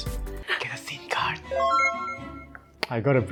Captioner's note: whispers